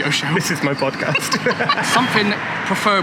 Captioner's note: laughter